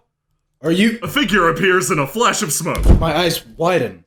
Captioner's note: poof